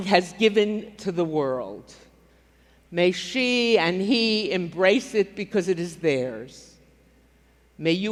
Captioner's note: none